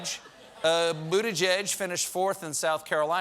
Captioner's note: laughter